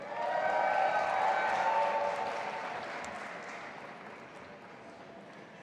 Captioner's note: audience applauding and cheering